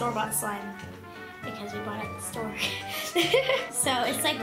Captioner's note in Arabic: يضحك